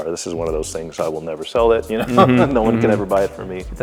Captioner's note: laughs